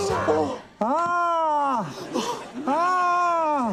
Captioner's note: gasps; gasps